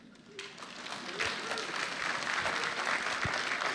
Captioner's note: applause